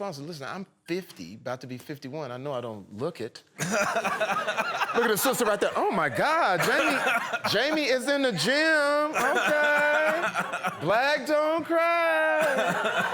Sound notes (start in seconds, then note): 3.6 laughter